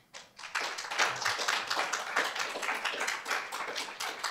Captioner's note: applause